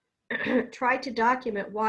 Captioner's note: clears throat